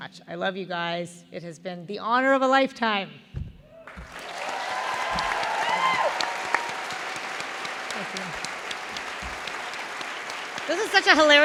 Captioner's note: thunderous applause; laughter